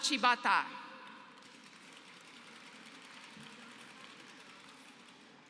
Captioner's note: applause